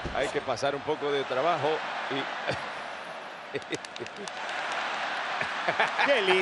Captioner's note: laugh